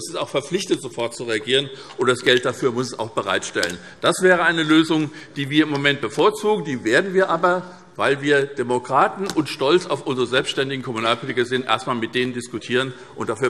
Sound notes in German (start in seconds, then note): none